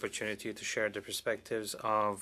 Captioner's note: speaking French